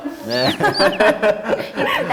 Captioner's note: peep peep